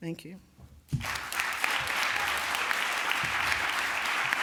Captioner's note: applause